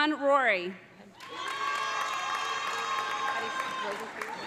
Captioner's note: audience applauding; audience cheering